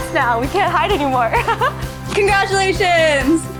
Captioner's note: laughs